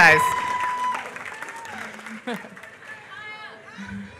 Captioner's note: applause